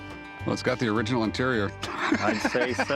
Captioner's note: laughter